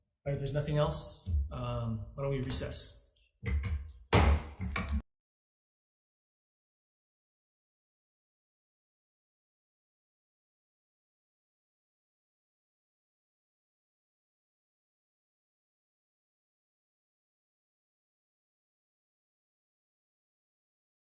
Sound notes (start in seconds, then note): 4.1 gavel bangs; 5.2 silence